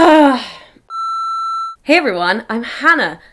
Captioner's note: beep